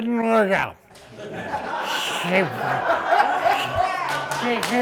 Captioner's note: laughing